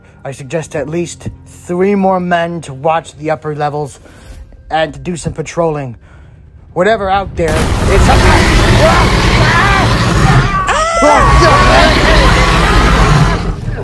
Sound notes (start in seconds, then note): 7.4 Albertosaurus crashing through wall and roaring; 9.8 all screaming